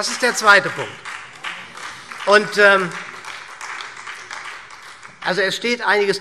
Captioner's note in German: Beifall